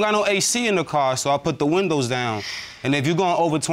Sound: sighs

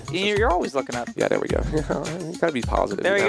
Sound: laughs

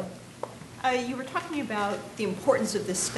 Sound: voiceover

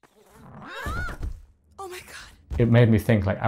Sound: Alyx shrieks

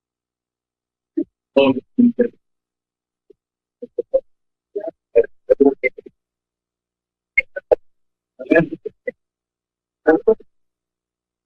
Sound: background chatter

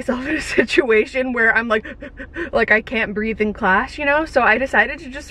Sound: gasps for air

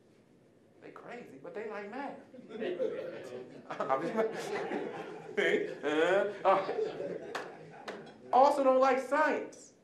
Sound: audience laughing

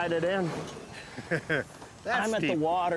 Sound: laughs

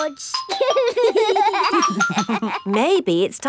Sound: giggling

